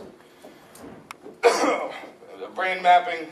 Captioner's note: coughs